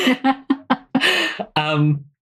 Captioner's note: laughs